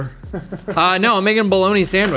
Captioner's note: laughing